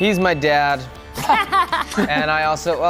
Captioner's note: group laughs